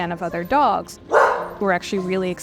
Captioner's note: bark